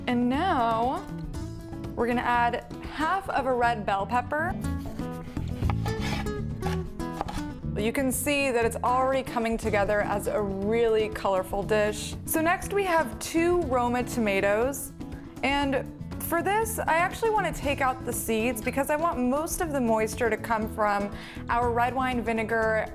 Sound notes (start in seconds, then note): 4.7 knife hitting cutting board